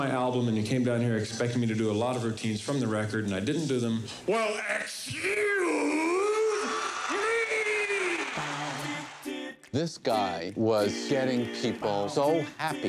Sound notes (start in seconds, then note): 5.9 crowd cheering; 7.9 jolly barbershop vocals